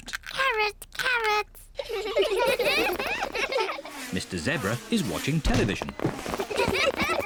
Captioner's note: all giggle